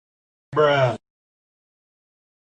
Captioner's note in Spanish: bruh sound effect #2